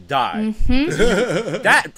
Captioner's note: laughter